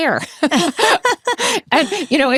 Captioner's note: both laughs